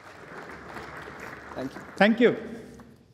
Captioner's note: applause